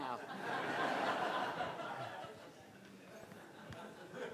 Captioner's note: crowd laughing